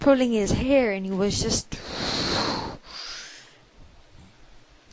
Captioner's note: mad breath